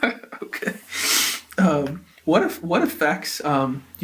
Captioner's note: laughs